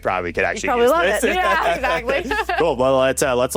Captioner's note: laughs